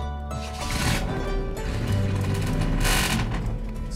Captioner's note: engine turns over